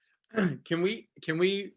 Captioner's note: clears throat